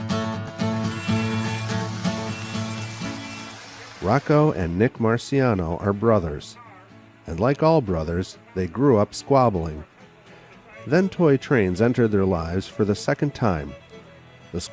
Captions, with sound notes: - [Voiceover] Rocco and Nick Marciano are brothers, and like all brothers, they grew up squabbling. Then, toy trains entered their lives for the second time.